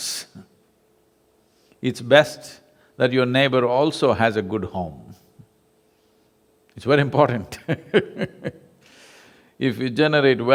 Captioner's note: laughs